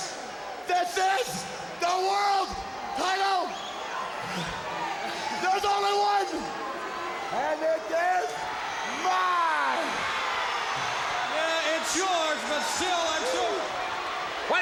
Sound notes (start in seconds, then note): 10.0 crowd booing